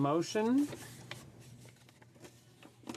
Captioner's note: speaking in French